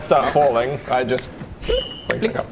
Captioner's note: click; blip